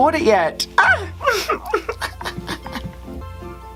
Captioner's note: giggles